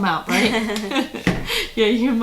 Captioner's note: laughing